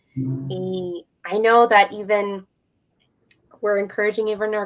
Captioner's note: speaking in native language